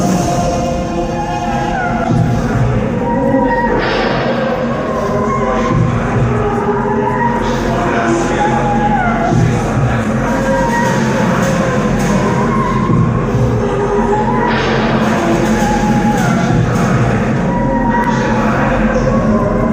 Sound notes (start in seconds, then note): 2.0 chanting "crucify Him, crucify Him"